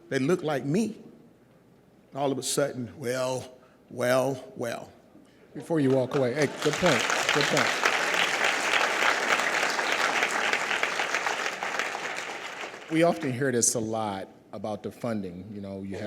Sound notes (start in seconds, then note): 5.8 audience applauds; 9.1 audience applauds